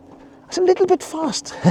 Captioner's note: laughs